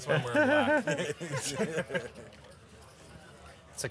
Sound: laughing

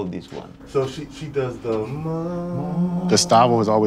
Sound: hums tune

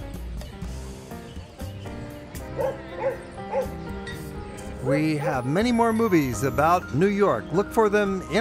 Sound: dogs bark

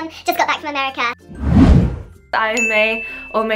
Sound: fwoosh

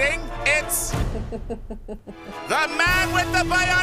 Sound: laughter

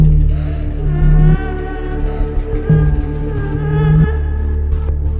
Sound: baby Girl Crying

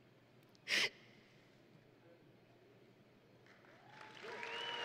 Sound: sniffles; audience and graduates cheering

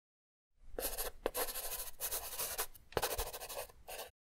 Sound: pen scratches

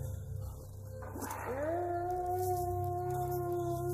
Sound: howl

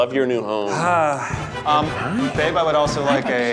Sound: sighing

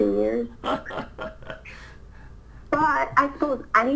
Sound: laughs

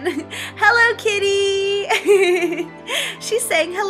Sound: laughs

